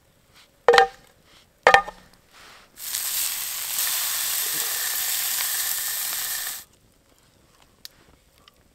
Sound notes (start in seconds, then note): 0.7 sausages clanking; 2.7 sausages sizzling